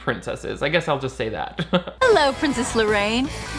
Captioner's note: chuckles